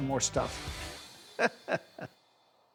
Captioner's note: chuckling